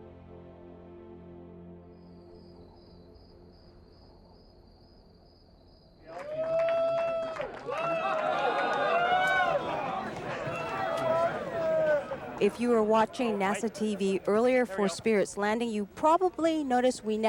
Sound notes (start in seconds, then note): 1.7 crickets chirping; 6.1 crowd cheering